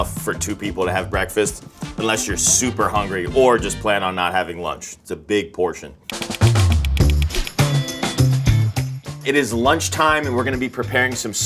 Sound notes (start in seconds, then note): 6.1 energetic music; 6.1 drums beat; 7.0 note swooshes